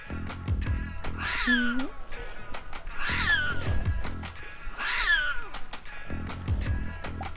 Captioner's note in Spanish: gato llorando